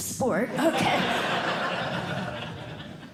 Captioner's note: laughter